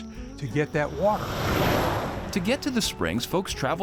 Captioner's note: truck whooshes